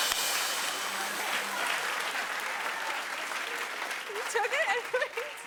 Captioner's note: applause; rim shot